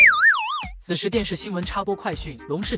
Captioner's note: TV news interruption